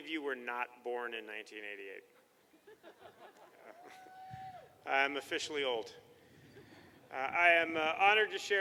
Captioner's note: laughter